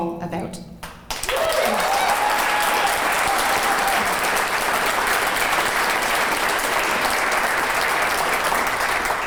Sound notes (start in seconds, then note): 2.5 clapping and cheering